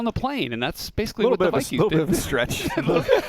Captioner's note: laughs